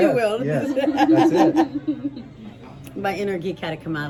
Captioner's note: laughing